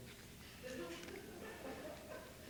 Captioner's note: laughter